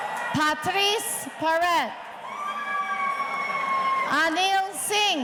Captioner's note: audience cheering